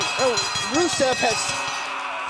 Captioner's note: bell ringing